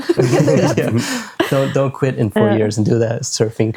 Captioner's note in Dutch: lacht